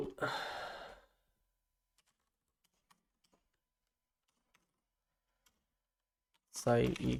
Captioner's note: sigh; silence